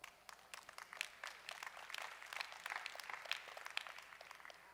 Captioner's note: audience applauding